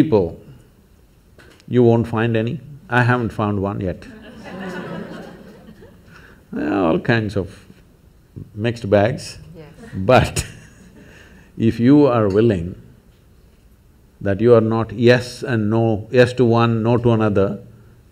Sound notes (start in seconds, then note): 4.0 laughter; 9.5 laughs